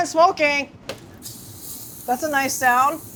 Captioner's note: meat sizzles